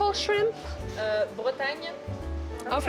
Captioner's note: speaking French